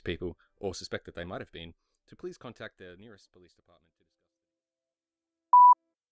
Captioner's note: fades out